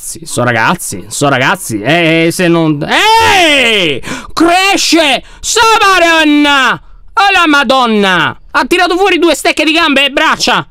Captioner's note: screams